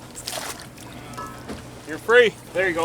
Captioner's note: water splashing